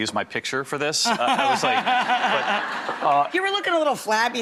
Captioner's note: laughing